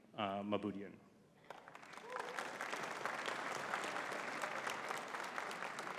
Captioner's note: audience cheering and clapping